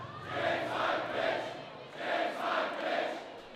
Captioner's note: crowd